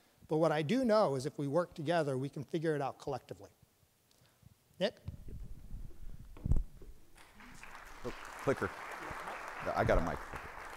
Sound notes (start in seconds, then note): 7.2 audience applauds